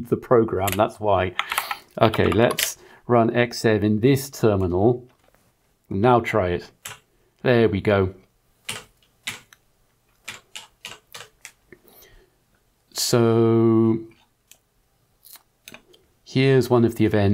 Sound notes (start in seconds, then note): 10.6 blank Audio